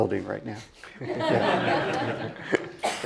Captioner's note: laugh